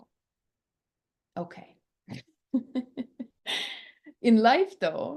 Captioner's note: laughs